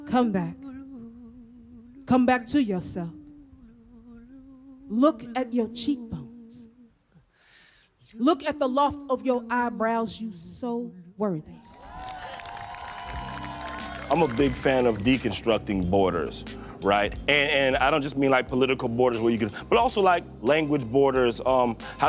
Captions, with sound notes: Come back. Come back to yourself. Look at your cheek bones. Look at the loft of your eyebrows. You so worthy. (audience applauding and cheering) - I'm a big fan of deconstructing borders, right? And I don't just mean like, political borders where you can- But also like, language borders.